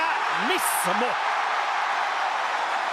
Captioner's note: applause